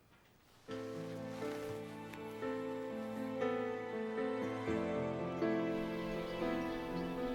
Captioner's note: gentle music; birds chirping